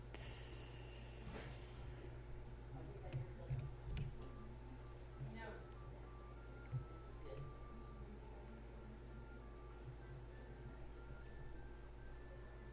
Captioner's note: some typing, less clicking